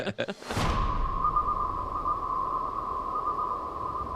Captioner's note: all laughing; celestial beeping